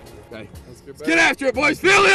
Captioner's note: yelling